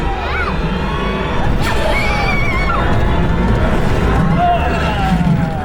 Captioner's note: on ride dramatic sfx